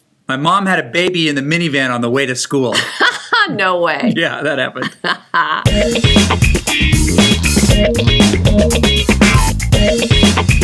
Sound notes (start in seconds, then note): 2.8 laughing; 5.6 upbeat music